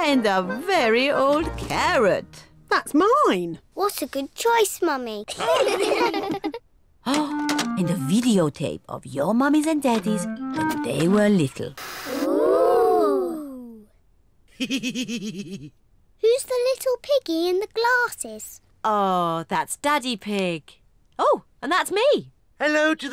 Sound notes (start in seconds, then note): 5.3 all laugh; 14.6 laughs